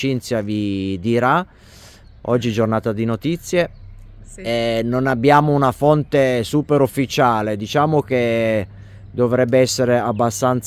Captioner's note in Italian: sbuffare